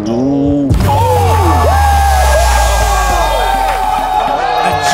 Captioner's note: cheering